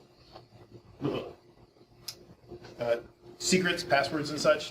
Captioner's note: instructor shuddering